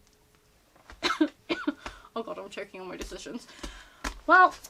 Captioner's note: cough